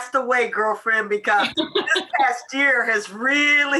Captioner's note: laughing